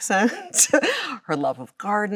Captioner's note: Chloe laughs